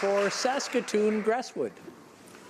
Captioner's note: applause